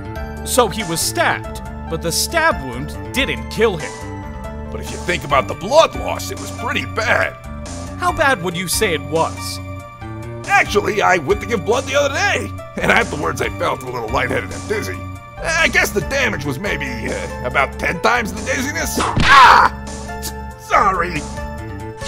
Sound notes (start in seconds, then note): 19.0 whip crack!